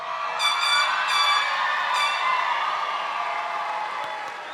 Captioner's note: audience cheering and applauding; party horn blaring